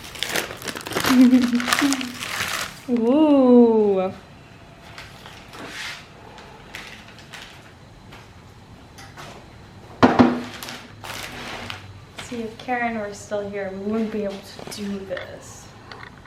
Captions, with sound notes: *giggles* Oooh see, if Karen were still here we wouldn't be able to do this...